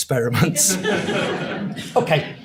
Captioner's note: audience laughs